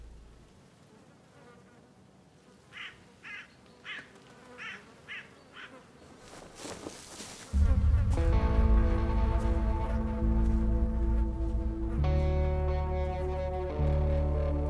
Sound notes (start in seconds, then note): 2.7 bird of prey squawking; 5.7 flies buzzing